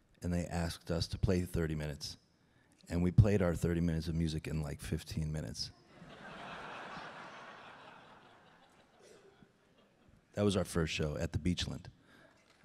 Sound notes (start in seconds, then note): 6.0 audience laughing